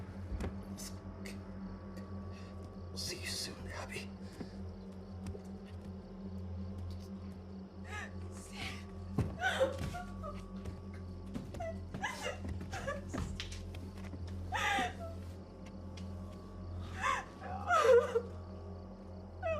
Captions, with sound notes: I'll see you soon, Abby. - Steve. (Maria crying)